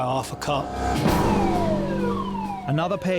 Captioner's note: dramatic music; alarm blaring